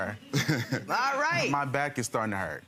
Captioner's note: laughing